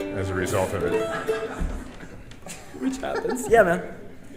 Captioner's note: audience laughing